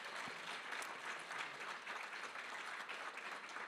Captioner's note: applause